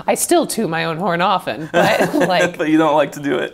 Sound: laughs

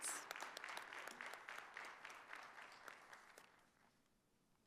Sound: audience applauding

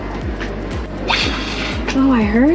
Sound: manatee snorting out water

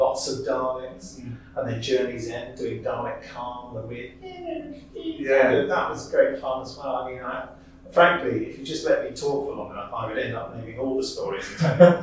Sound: Dalek Caan Noises

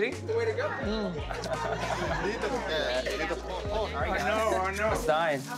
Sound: laughter

